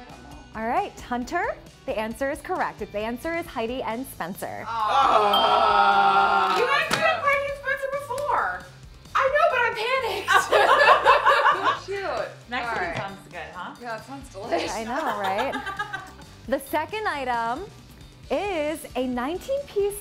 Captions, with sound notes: All right, Hunter, the answer is correct. The answer is Heidi and Spencer. (groaning) - You guys picked Heidi and Spencer before. - I know but I panicked. (laughing) - Mexican sounds good, huh? - Yeah, sounds delicious. - Yeah, I know, right? The second item is a nineteen piece knife set